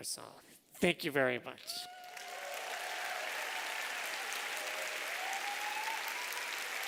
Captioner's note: applause